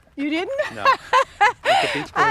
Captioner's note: laughs